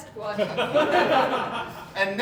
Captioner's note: audience Laughing